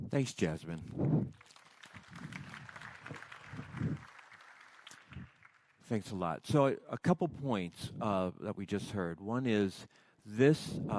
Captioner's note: applause